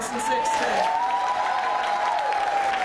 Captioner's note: applause